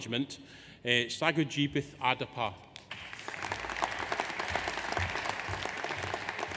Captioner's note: audience applauds